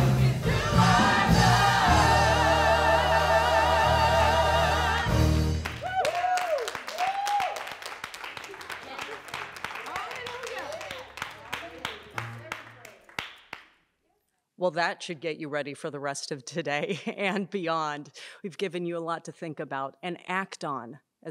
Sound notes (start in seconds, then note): 5.6 applause